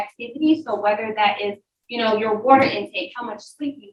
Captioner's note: none